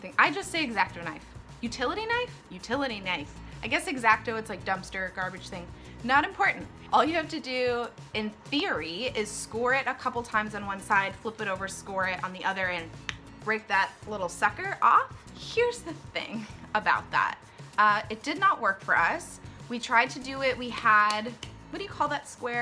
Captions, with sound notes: I just say x-acto knife...utility knife? Utility knife! I guess x-acto, it's like dumpster/ garbage thing -- not important! All you have to do, in theory, is score it a couple times on one side, flip it over, score it on the other, and [mouth click] break that little sucker off. Here's the thing about that. It did not work for us. We tried to do it; we had -- what do you call that square? --